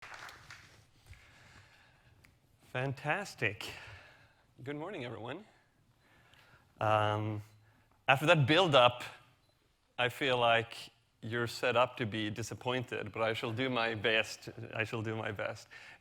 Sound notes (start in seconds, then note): 0.0 audience applauding